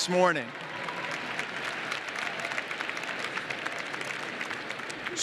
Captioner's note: applause